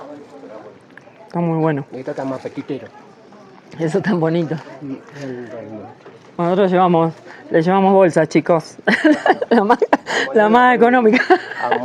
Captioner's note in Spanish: risas